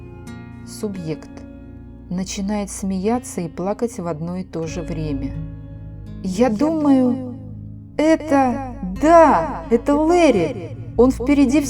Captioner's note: begins to laugh and cry at the same time